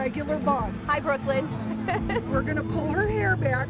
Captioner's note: laughs